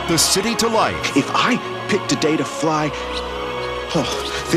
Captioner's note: chirp